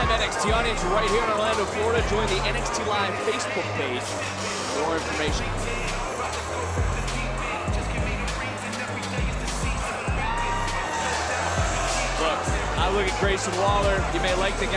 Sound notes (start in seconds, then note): 6.1 crowd cheers